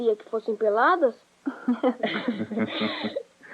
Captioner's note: laughter